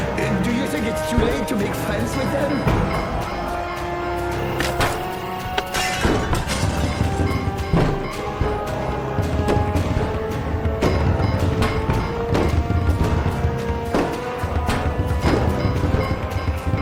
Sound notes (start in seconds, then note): 2.8 suspenseful music; 5.6 glass shattering; 10.3 zombies banging